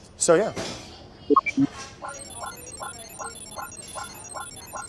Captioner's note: electronic beeping